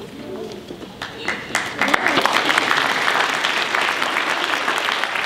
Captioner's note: applause